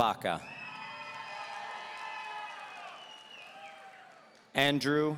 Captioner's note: audience cheering